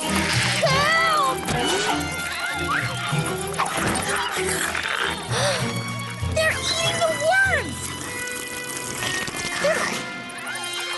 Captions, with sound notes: Help! [ Gasps ] They're eating the words!